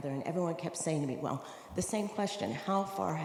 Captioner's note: none